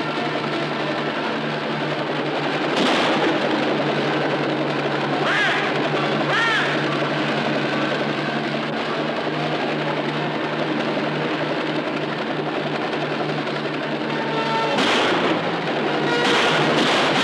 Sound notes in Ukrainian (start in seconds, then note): 5.9 постріли